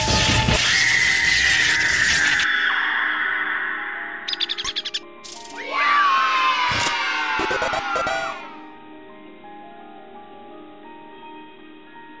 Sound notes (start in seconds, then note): 0.6 high Pitched Yelling; 5.5 children Yelling Yay